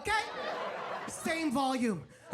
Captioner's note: audience laughs